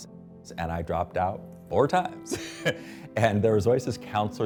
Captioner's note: laughs